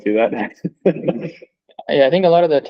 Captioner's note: laughs